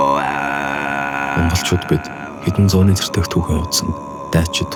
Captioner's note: in Mongolian